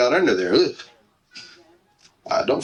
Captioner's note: heart monitor